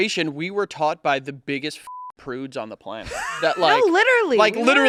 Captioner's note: beep